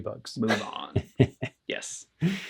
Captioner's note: laughs